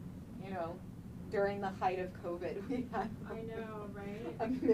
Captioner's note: laughing